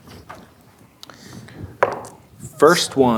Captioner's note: dice rolling